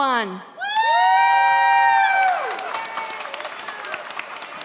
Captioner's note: audience cheers